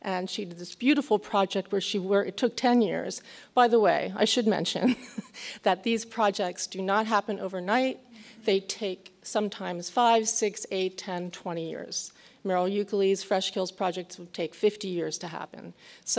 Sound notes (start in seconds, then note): 5.2 laughs